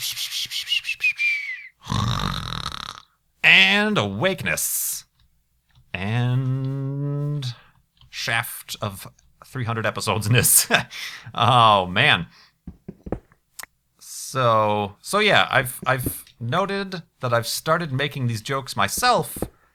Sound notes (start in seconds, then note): 1.8 snore